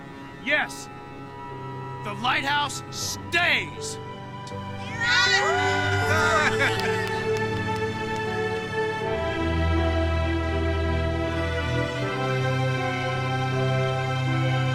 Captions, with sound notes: Yes, the lighthouse stays. (all cheering) (all applauding) (dynamic music)